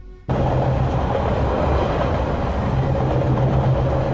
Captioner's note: train running